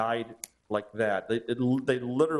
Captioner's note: fingers snapping